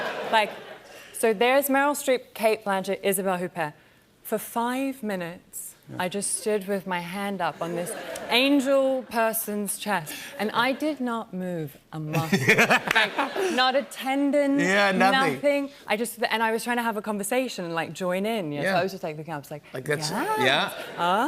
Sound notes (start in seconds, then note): 0.0 laughter; 12.2 laughter